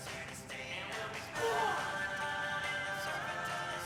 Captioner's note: yells